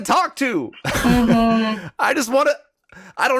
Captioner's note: Justin chuckles